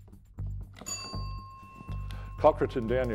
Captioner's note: bell dings